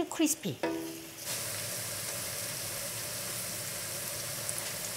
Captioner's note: sizzling